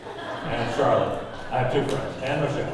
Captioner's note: audience laughing